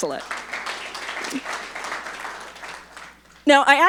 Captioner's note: audience applauding